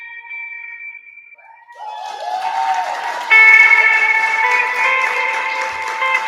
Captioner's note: cheering